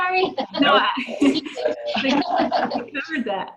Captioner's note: laughing